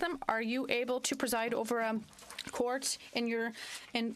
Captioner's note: speaking French